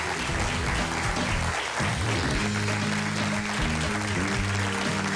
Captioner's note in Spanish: Aplausos